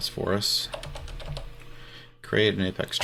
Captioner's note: keyboard keys clanking